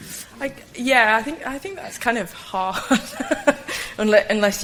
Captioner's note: laugh